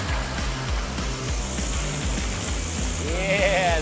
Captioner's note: buzzing